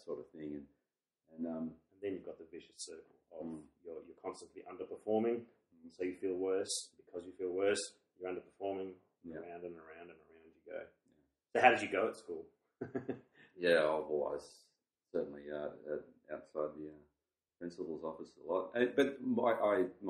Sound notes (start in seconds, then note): 12.8 laughs